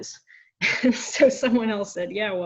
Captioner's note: chuckling